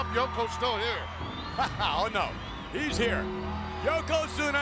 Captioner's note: laughs